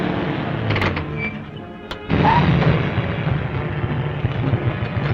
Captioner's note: gears grinding; tires squealing; suspenseful music